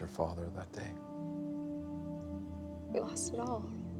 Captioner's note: voice shakes